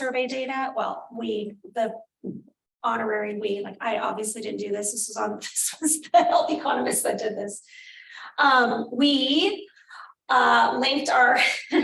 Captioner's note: laughter